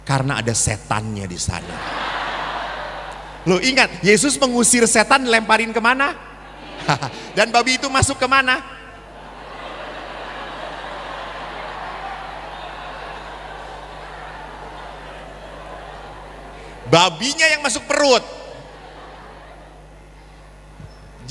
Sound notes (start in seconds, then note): 11.0 applause